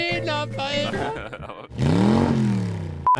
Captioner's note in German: Motorgeräusche